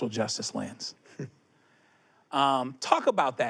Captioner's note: chuckles